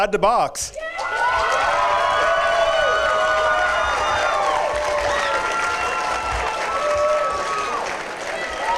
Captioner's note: cheering and applause